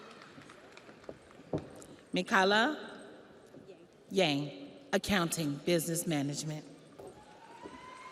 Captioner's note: audience applauds; audience cheers